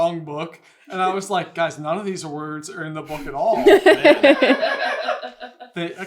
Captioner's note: laughter